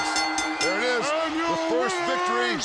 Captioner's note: bell ringing